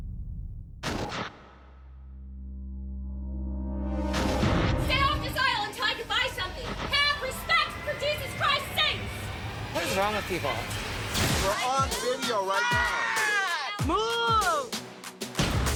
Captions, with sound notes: (static buzzes) (static buzzes) >>What is wrong with people? >>You're on video right now. >>What? Move!